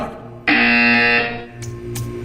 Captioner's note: buzzer.wav